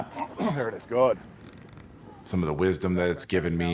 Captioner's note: people speaking softly